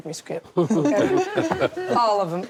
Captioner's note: all laugh